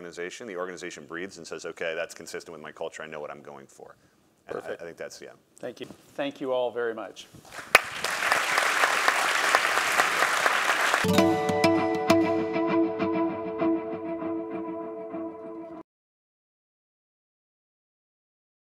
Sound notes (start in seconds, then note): 7.5 applause